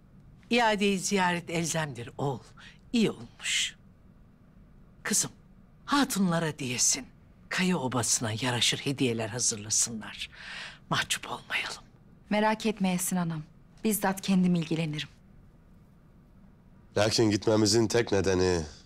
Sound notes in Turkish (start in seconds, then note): none